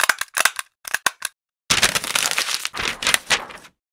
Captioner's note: kretek kretek